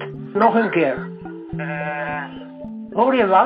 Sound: humming sound

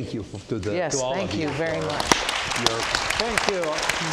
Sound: audience applauds

